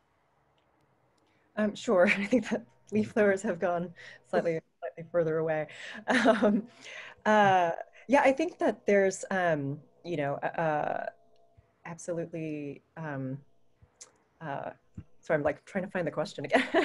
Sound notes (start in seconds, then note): 3.1 laughter